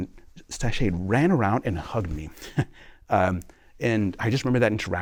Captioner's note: laughter